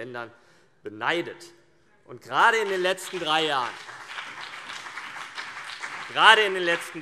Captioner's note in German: Beifall CDU und BÜNDNIS 90/DIE GRÜNEN